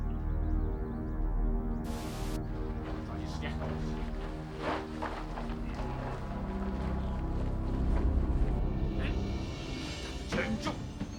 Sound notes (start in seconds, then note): 1.9 static crackles; 3.7 ominous music; 5.6 men grunting